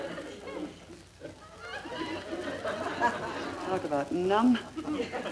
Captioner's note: audience laughter